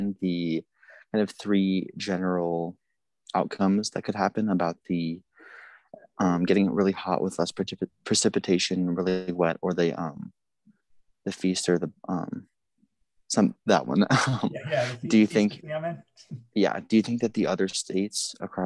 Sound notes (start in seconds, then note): 14.1 chuckles